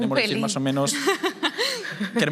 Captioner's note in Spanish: Risas